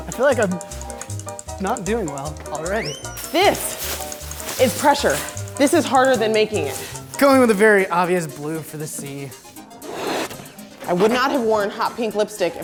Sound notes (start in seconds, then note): 9.8 balloon rubber stretching